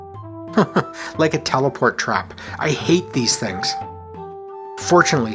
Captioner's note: chuckles